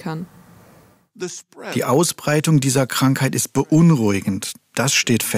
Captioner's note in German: englisch